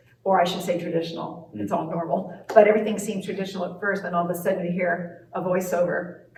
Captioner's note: claps hands